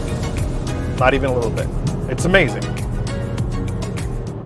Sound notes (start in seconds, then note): 0.0 upbeat music; 2.8 engine whirring; 2.8 upbeat music